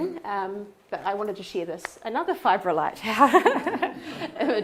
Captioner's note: laughs